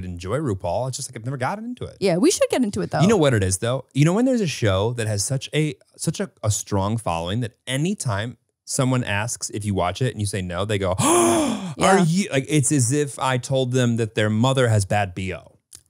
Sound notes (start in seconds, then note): 10.9 gasps